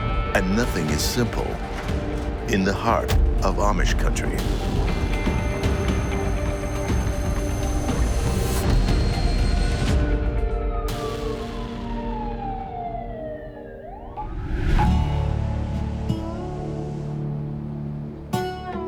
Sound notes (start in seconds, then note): 5.8 dramatic music; 12.0 siren wailing; 14.9 pleasant music